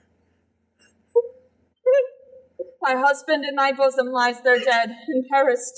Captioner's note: cries